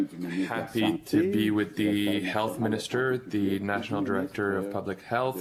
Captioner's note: speaking French